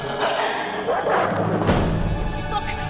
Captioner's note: wolves barking